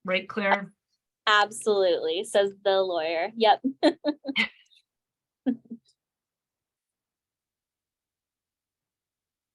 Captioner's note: chuckling